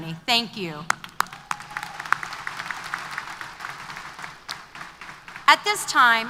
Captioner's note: applause